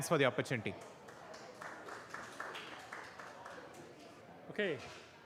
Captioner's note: applause